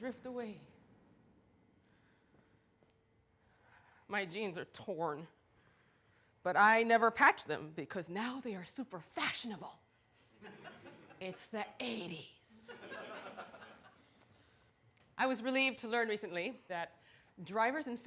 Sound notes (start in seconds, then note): 12.7 audience laughter